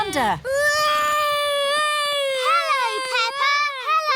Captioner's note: continues wailing